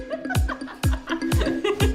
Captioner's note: bright electronic music; laughing